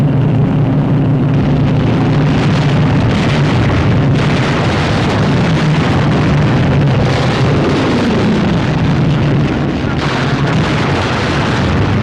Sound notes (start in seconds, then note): 3.7 gun firing